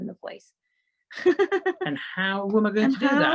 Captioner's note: laughs